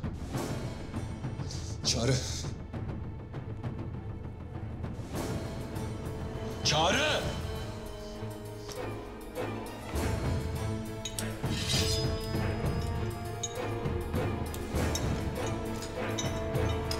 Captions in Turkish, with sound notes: Çağrı. Çağrı! (Kılıç çekme sesi) (Kilit açma sesi)